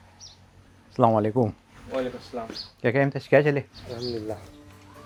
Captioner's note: speaking foreign language